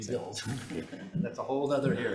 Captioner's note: chuckling